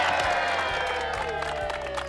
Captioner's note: cheering